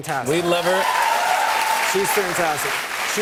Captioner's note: cheers and applause